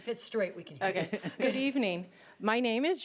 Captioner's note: laughing